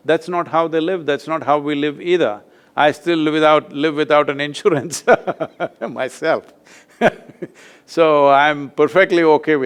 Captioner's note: laughs